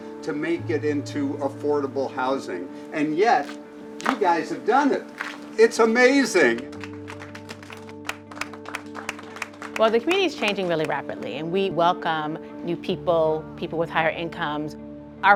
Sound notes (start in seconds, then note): 6.5 audience applauds